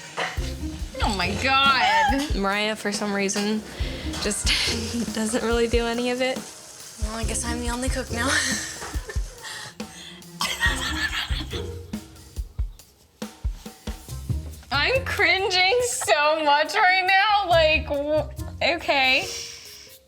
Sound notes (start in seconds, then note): 8.6 chuckles; 10.4 laughs